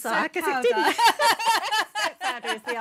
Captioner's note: laughter